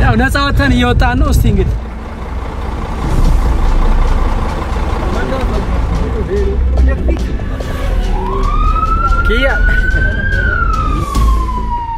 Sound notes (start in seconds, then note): 2.0 crowd noise; 7.6 A police car siren